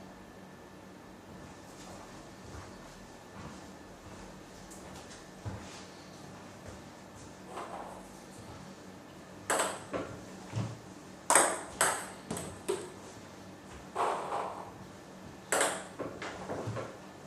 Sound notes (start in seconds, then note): 11.2 balls ping pong hitting